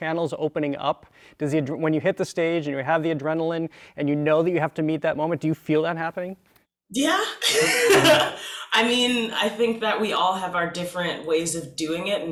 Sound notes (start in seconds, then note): 7.4 laughs